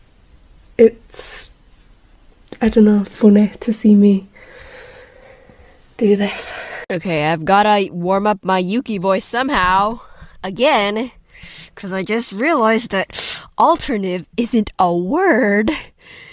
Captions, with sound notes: It's... I don't know. Funny to see me do this. (sighs) Okay, I've gotta warm up my Yuki voice SOMEHOW. Again. 'Cause I just realized that alternive isn't a word.